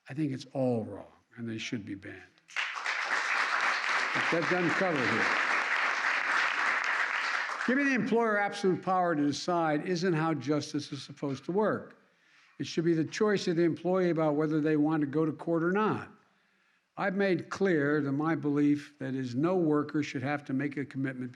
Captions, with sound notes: I think it's all wrong and they should be banned. (Applause.) Giving the employer absolute power to decide isn't how justice is supposed to work. It should be the choice of the employee about whether they want to go to court or not. I've made clear to my belief that is no workers should have to make a commitment